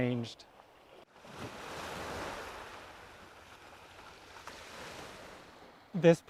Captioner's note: waves crashing